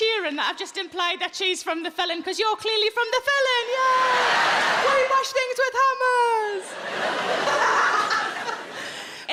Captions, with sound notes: that I've just implied that she's from The Felon 'cause you're clearly from The Felon, yay! (audience laughing) We bash things with hammers! (all laughing loudly)